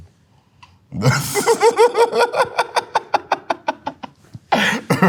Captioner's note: laughing